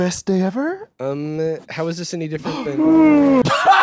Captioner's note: yawns; laughing